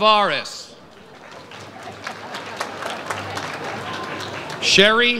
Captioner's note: audience applauds